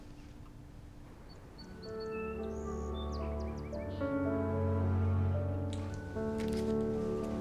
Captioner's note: birds chirping; light music